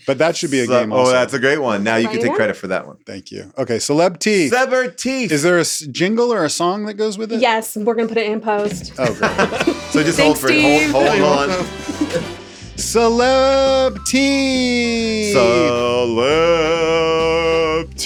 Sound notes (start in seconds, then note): 8.7 everybody laughs; 12.1 lively music